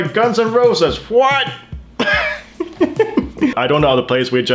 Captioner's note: laughs